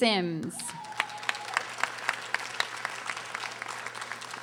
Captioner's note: audience applauding